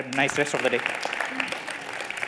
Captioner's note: applause